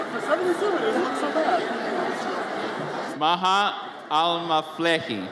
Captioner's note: audience cheers; audience chatters